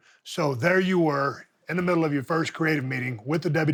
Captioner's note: none